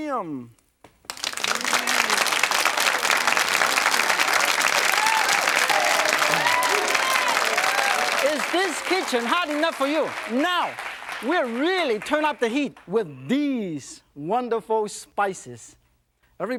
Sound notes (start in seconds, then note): 1.1 crowd cheering